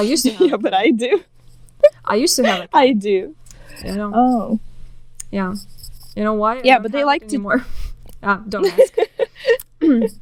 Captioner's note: laughing